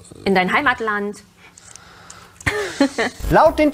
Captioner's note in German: lacht